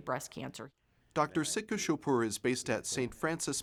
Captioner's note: voiceover